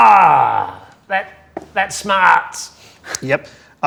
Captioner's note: groans